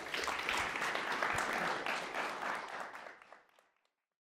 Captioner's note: all clapping